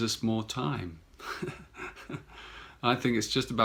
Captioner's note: chuckles